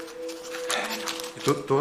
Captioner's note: sighs; stuttering